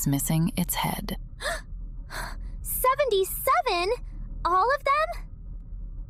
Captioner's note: gasp